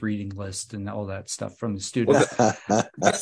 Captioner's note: laughs